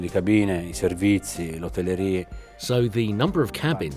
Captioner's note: speaking in foreign language